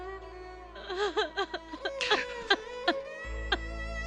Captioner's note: crying